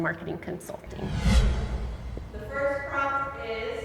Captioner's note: air swooshing